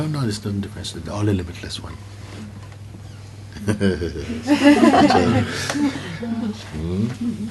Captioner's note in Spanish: risas